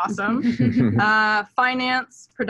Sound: laughs

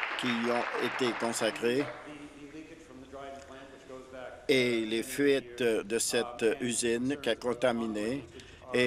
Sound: some Applause

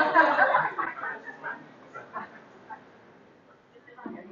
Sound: laughter

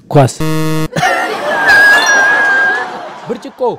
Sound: laughter

